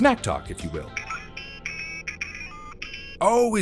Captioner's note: c-gal beeps